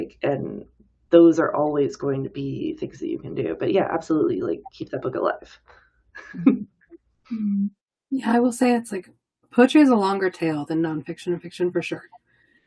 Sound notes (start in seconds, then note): 6.2 laughs